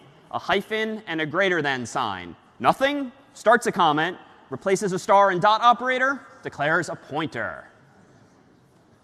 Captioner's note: none